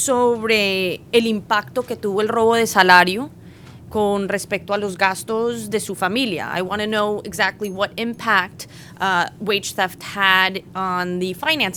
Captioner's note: speaking spanish